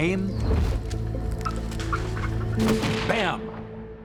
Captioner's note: turkey squawking; gunshot